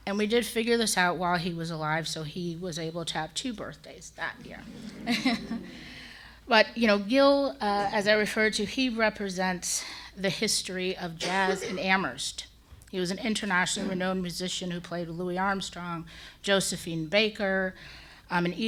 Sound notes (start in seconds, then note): 4.7 and audience laughs